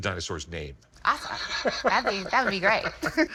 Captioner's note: laughs; chuckles